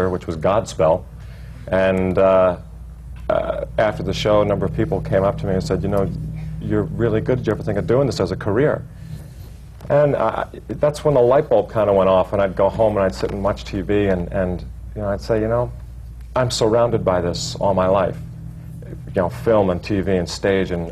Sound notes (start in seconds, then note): none